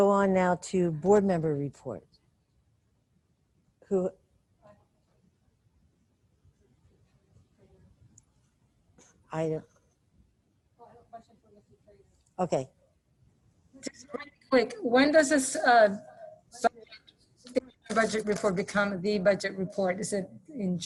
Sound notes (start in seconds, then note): 17.1 distorted sound